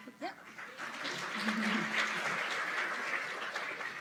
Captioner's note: applause